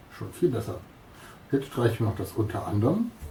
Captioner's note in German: Aus dem Off